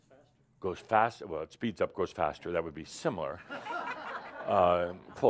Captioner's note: laughter